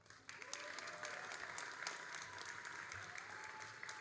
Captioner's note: all applauding